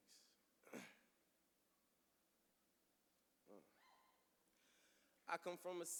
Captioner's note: clears throat